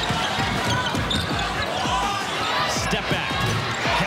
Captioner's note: shoes squeaking and crowd cheering